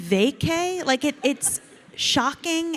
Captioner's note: audience laughs